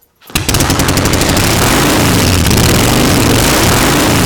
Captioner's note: motor engine running